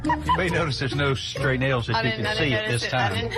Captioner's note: laughs